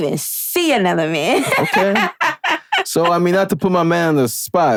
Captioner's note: laughing